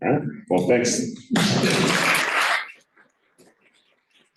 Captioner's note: applause